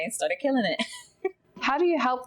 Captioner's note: laughs